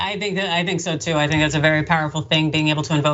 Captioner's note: laugh